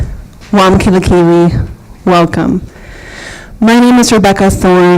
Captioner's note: non-english speech